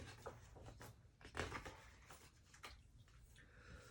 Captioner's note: pages turning